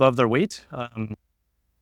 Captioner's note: audio drop